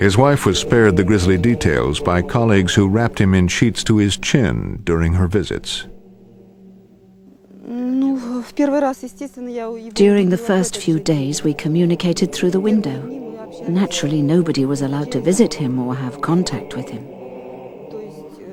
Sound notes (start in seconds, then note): 7.7 through translator